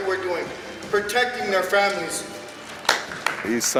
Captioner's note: applause